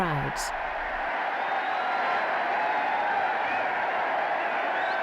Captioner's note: crowds cheering